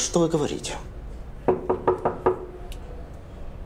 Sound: knocks on door

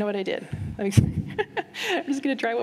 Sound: laughter

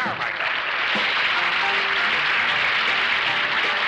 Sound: audience applauds

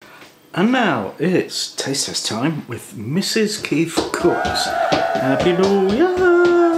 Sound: cheering

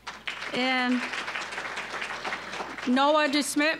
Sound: applause

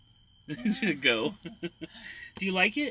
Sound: laughs

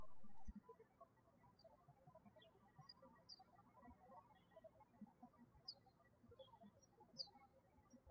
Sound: birds chirping

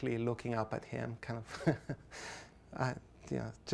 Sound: laughs softly

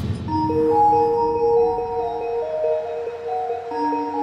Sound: tinkling bells

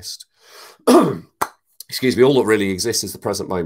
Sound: coughs

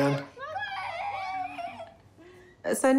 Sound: chatter

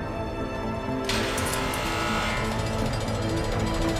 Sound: buzzer, gate clanking

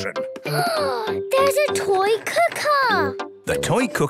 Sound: gasps

